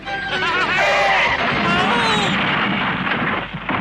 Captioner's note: Toad laughs; motorcar crashes